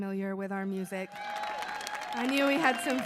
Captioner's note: audience cheering